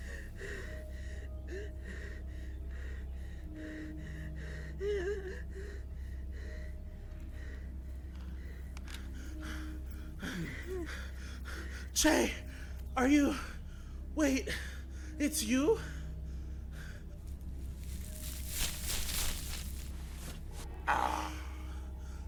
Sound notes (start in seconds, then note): 3.4 gasps and wheezy cries; 4.0 Damiens footsteps/breathing fade in; 9.5 breathing heavily